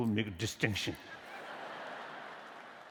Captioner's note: laughter; applause